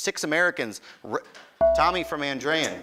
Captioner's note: beeping